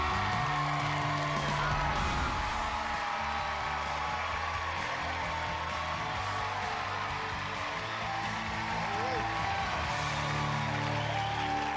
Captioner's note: all cheering and applauding